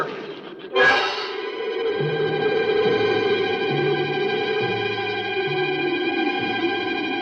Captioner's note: wind howls; tense music continues